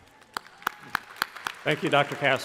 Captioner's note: crowd applauding